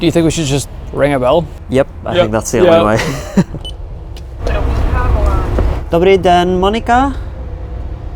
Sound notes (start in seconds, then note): 2.6 laughing; 3.6 buttons beeps; 4.7 person speaking in foreign language